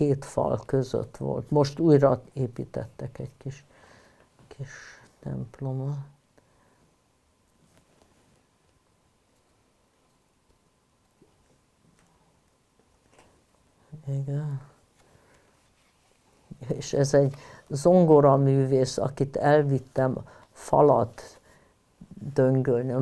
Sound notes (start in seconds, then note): 6.4 pause 7 seconds